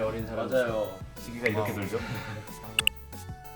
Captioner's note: choked up